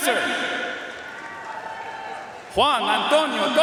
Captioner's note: audience cheering and applauding